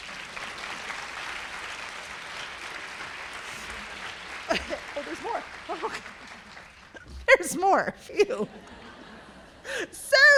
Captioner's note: BREAK and applause